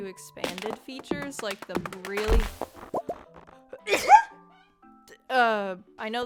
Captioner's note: achoo